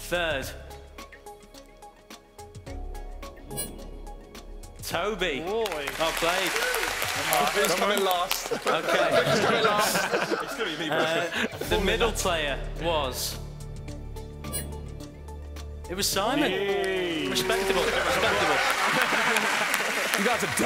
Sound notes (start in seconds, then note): 9.1 laughing; 19.1 applauding